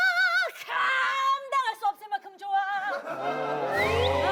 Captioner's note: crazy high pitched voice